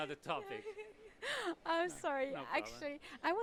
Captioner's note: giggle